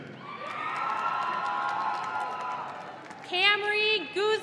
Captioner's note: audience cheering